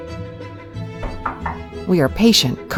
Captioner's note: knock on door